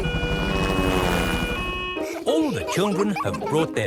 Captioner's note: siren wailing